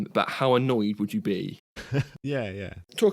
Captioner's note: laughs